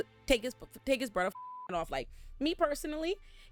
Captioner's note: beep